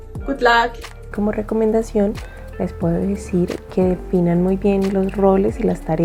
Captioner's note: speaks in a foreign language